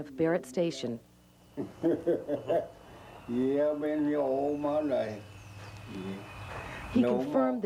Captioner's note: laughs